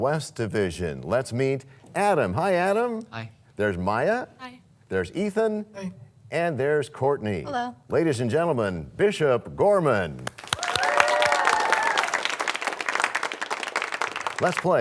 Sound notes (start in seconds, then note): 5.7 cheers and applause